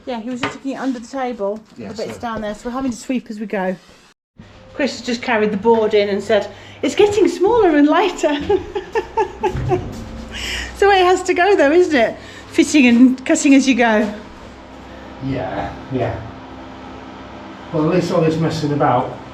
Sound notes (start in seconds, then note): 8.2 laugher